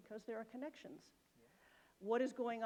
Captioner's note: none